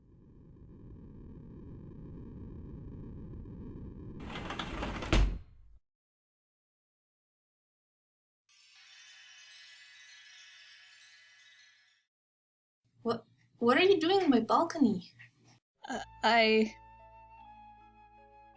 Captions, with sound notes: *door open* w-what are you doing on my balcony?! uh- I..